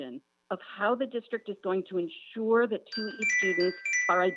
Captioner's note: chime